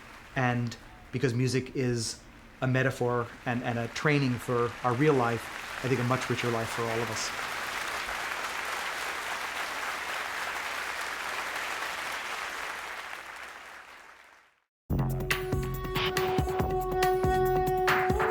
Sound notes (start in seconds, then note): 7.9 audience applauding; 15.0 dramatic music